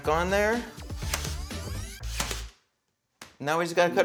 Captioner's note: nail gun snapping